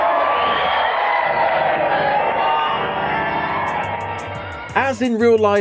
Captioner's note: audience Applause and cheering